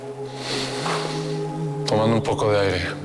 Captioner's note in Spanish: Inhala